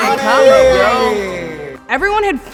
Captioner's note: group exclaims and argues